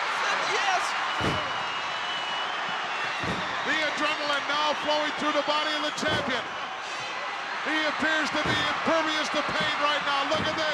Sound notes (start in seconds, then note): 1.1 fist thudding